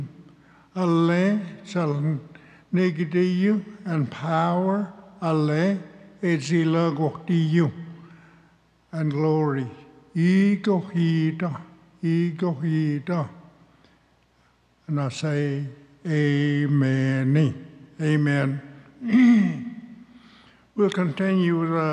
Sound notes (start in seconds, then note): 0.2 speaks Cherokee; 5.6 speaks Cherokee; 10.4 speaks Cherokee; 19.0 clears throat